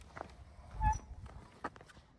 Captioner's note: gate hinge squeaking